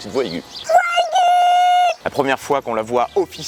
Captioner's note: acute voice !!!